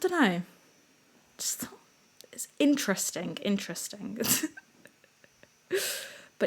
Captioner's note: giggle